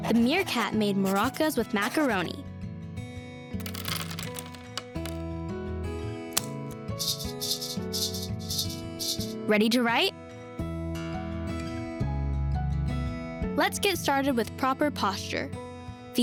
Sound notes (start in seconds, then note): 3.6 macaroni clatters; 6.9 maracas rattling